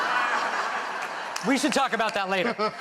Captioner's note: laughter